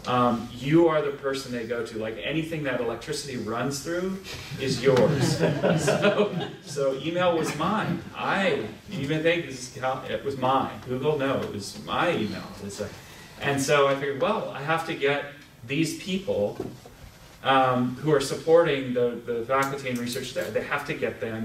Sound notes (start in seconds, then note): 4.4 laughter